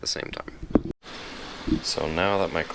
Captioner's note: washer hums